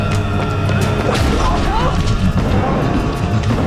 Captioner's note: gasps